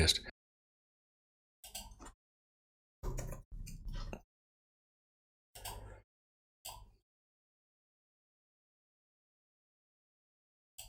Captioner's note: silence